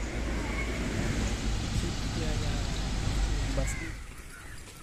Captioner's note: bus driving